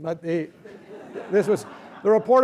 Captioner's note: laughter